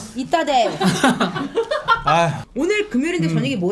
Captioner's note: speaking Koreanese out of frustration